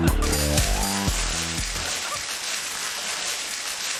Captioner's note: crackling